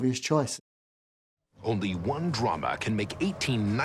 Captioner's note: soundbite of archived recording